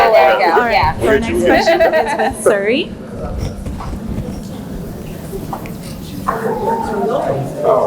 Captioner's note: laughs